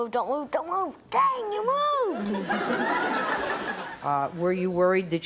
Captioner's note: audience laughs